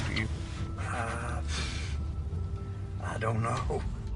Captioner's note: sighs